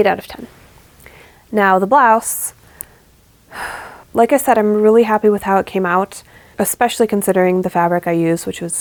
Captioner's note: sigh